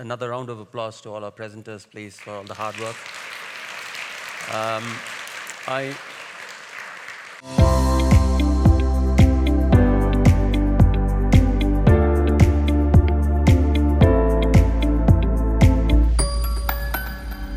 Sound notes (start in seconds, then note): 2.2 audience applauding; 7.4 upbeat music